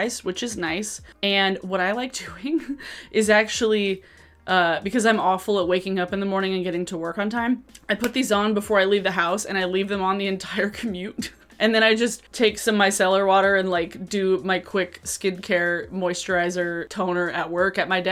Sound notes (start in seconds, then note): 2.5 chuckle; 11.3 laughs